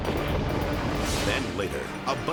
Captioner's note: silo crashing; dramatic whoosh